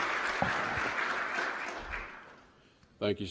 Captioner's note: applause